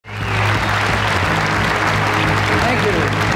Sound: audience clapping

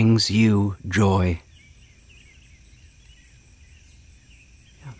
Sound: birds chirping

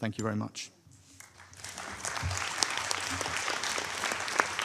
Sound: audience applauding

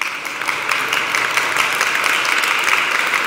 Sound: applause

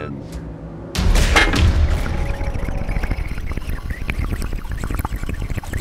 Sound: slurpity slurpity

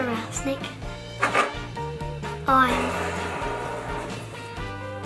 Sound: wheels spin

